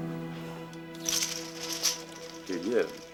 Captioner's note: bead curtain rattling